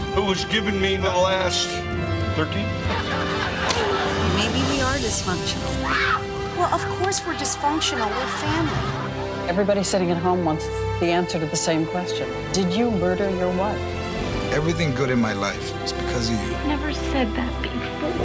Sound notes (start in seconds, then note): 3.4 punch lands; 5.8 screams